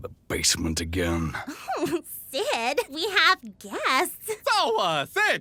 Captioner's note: giggling